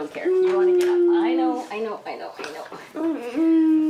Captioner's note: moaning